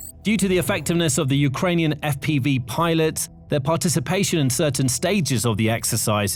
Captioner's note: Ukrainian